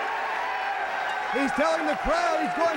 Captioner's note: crowd cheering